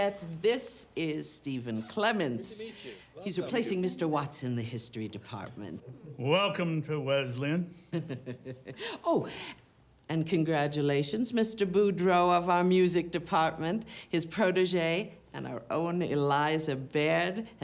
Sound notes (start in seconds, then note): 7.9 chuckles